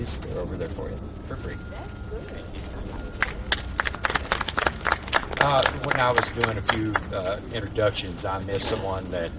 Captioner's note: audience clapping